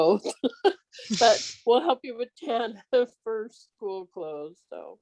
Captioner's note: laughs